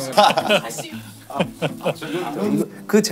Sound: laughing

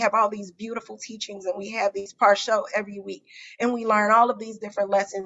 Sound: non-english

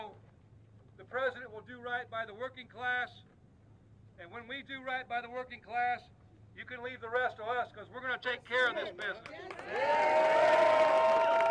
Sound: applause

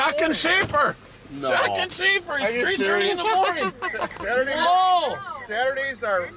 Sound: laughing

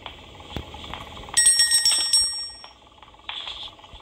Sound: bell jingling

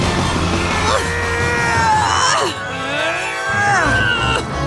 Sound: grunting

